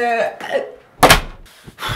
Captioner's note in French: porte qui claque